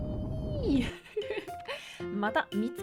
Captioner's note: laughing